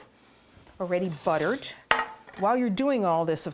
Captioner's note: clanging